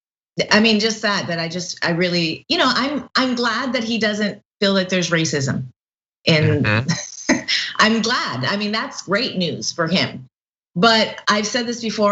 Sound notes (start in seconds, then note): 6.3 laugh